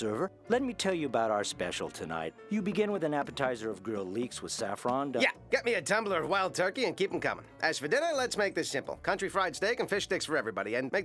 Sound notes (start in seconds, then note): none